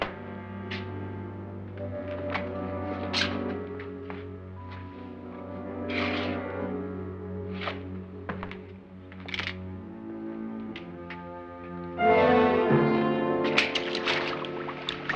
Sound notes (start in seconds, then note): none